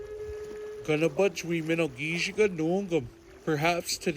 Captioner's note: speaking Ojibwe language